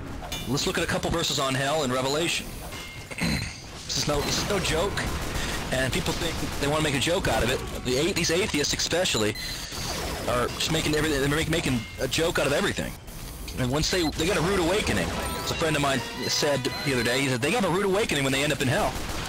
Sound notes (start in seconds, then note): 3.1 aHEM